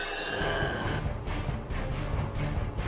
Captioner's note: growling